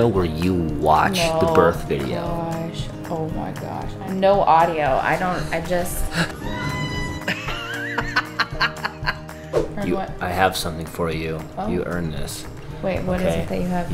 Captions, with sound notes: where you watch the birth video. - No, gosh. Oh my gosh. No audio, I don't, I just... (mother screaming) (both laughing) - I have something for you. You earned this. - Wait, what is it that you have?